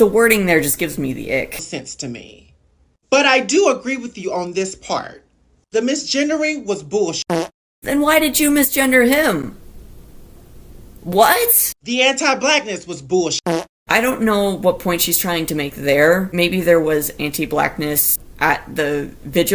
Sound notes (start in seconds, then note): 7.3 fart; 13.5 fart